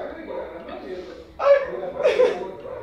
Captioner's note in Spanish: Risas